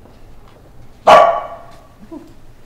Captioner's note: Boost Dog barking